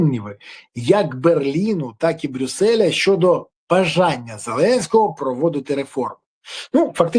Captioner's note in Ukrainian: сопіння